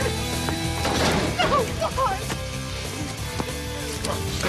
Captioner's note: clears throat